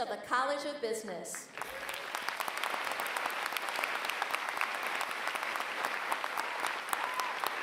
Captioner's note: applause